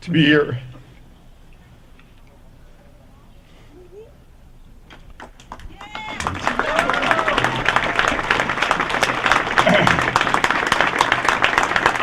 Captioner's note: applause